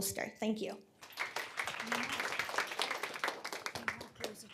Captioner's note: applause